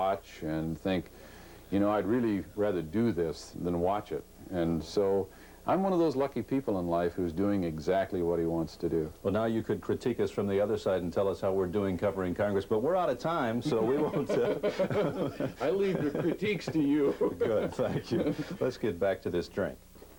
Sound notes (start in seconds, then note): 13.6 laughter; 18.1 laughing